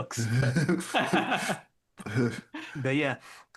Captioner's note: both Laughing